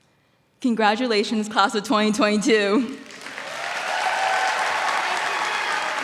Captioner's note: cheers and applause